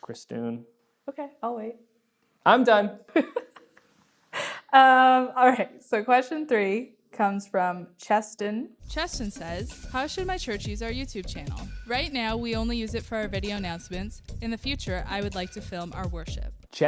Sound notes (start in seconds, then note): 3.1 laughter